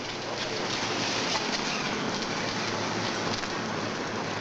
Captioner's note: car rumbling